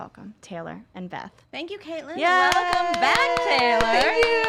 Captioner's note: claps